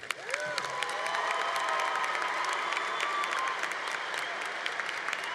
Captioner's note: congregation applauding